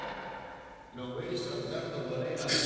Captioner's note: gavel taps